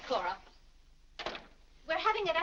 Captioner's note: door closes